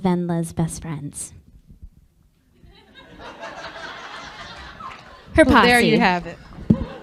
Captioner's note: laughter